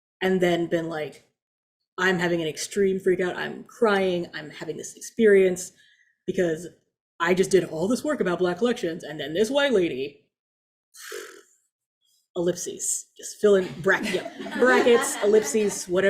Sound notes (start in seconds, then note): 11.0 mouth blowing